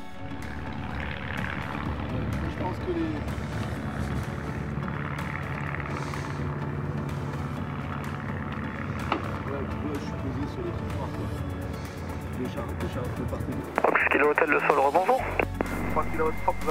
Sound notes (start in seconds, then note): 13.8 radio